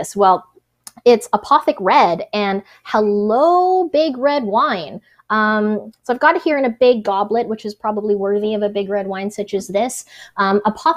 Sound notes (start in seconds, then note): none